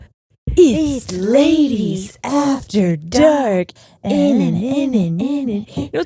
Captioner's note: chanting